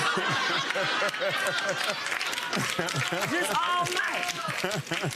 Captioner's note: audience applauding